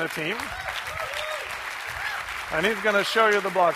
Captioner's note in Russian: бурные аплодисменты